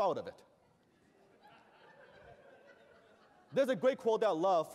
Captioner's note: laughter